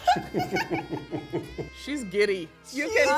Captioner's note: laughing